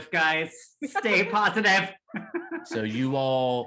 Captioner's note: laughing